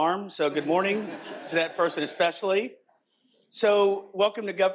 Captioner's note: audience laughs